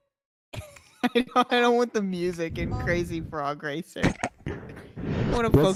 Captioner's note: laughing